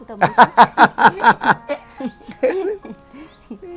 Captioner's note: both laughing